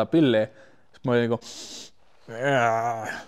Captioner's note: sniff